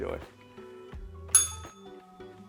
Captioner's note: bell rings